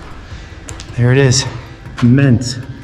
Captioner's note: panting; footsteps thud; bottle thuds; shovel scrapes